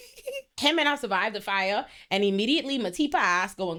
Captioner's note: laughing